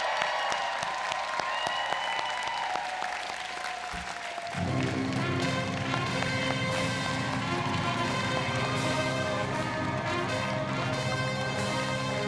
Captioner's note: applause